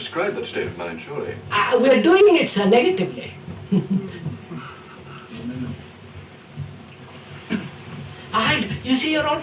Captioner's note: laughs